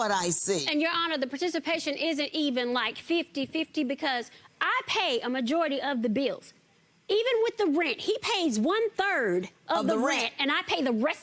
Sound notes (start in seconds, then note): none